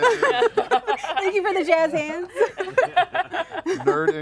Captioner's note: laugh; laughs